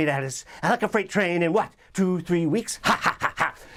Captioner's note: laughing